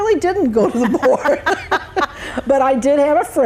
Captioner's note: both laugh